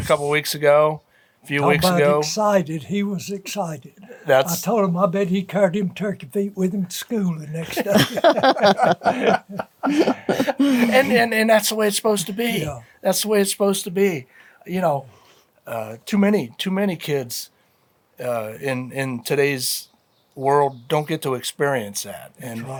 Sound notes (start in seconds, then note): 7.5 laughing